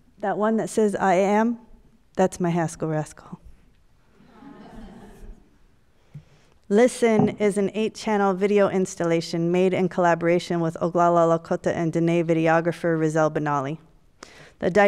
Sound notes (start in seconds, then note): 4.2 audience laughs